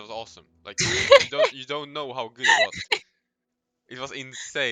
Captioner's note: haha